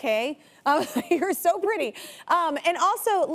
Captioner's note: chuckles